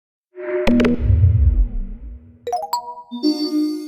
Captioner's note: Animated ISB logo and swoosh